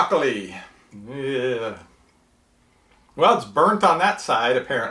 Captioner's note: groans